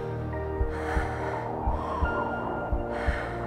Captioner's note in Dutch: zwaar ademen